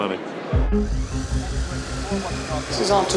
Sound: car whirling

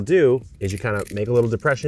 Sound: tool rustling

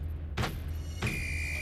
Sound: referee whistle

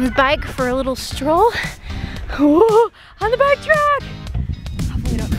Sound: panics

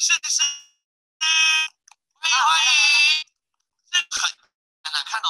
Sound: Mandarin

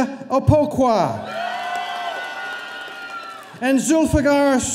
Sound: audience cheering

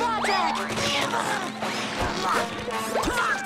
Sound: grunting

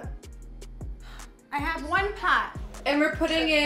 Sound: sighs

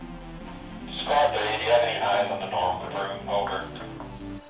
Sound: on Radio

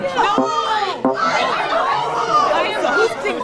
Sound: participants chattering; electronic tone beeping; participants clamoring

